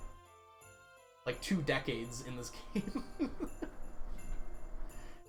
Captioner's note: laughs